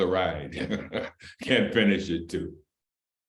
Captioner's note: laughter